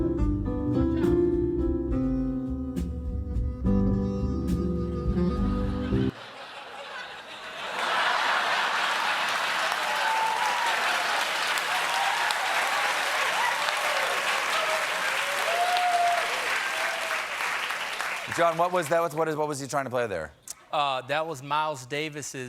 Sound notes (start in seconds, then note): 5.6 laughter; 7.3 cheers and applause